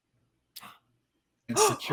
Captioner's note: all gasping